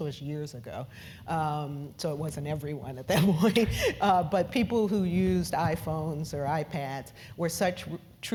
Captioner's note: laugh